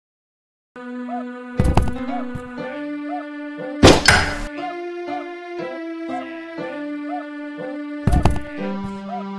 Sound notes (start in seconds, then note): 1.5 swinging Door Opens; 3.8 grappling Hook Sounds; 8.0 swinging Door Opens